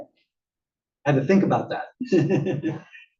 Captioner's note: laugh